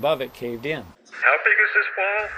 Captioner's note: voice on walkie-talkie